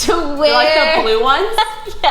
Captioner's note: laughing